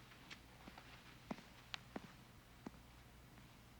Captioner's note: footsteps